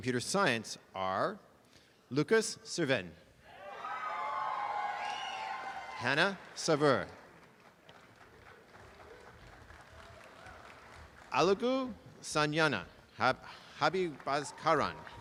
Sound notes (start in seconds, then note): 3.6 applause and cheering; 7.4 applause